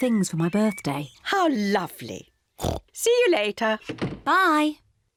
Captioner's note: oinks